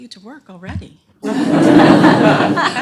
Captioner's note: laughter